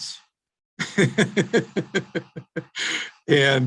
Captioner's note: laughing